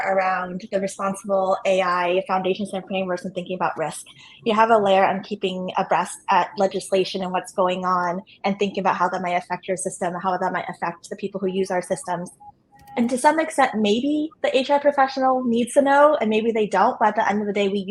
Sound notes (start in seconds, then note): none